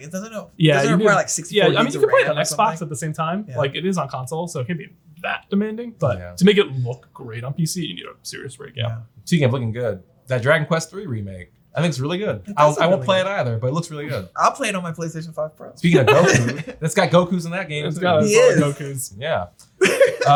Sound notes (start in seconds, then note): 15.9 all laugh; 19.8 laughs